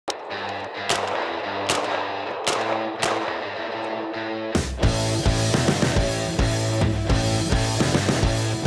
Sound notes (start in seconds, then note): 0.1 gun firing; 0.1 rock music